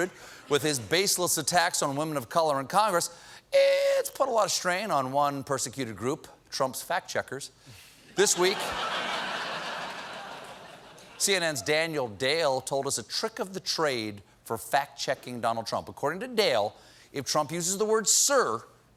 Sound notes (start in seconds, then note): 8.2 laughter